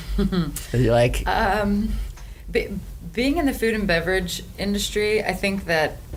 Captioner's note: laughs